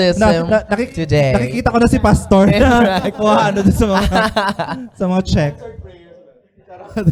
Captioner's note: laughter